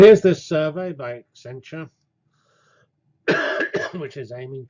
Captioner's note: cough